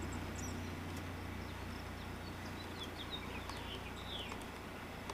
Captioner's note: birds continue chirping